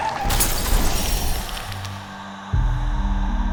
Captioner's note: car crash sounds